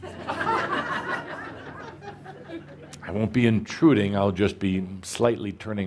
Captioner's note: laughter